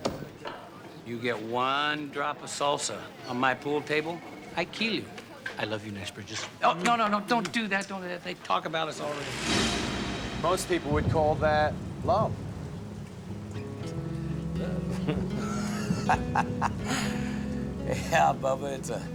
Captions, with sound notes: You get one drop of salsa on my pool table, I kill you. I love you, Nash Bridges. Oh, no-no-no, don't do that. Don't do that. They talk about us already. Most people would call that love. Love... (both laugh) Yeah, bubba.